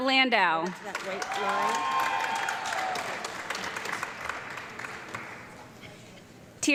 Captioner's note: audience clapping and cheering